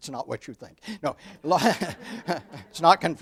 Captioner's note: audience laughs